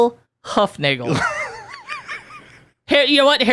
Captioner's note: laughing